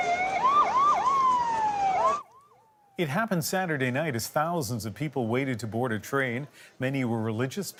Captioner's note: sirens